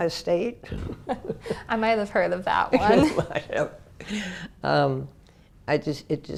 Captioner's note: laugh